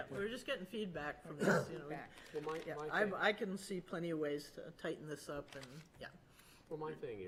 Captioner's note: clears throat